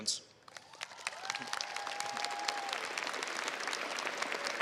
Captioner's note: crowd applauds